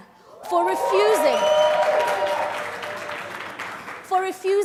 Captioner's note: crowd cheers